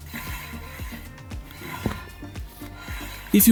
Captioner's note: rotor noise